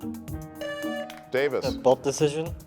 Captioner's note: buzzer buzzing